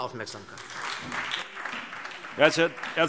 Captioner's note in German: Beifall SPD